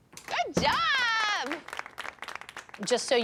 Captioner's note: applause